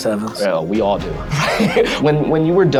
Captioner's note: all laughs